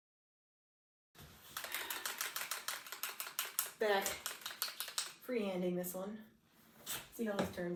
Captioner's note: shaking pen